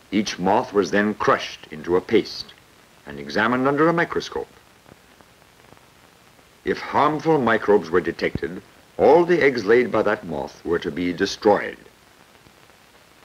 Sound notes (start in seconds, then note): none